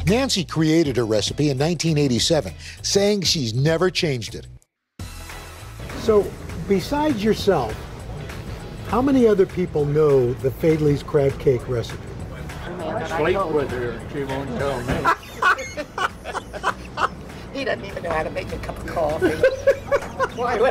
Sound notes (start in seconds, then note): 14.8 laughs